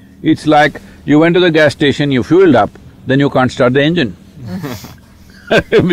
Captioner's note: laughs